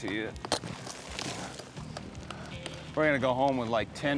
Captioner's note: hammers, rocks fall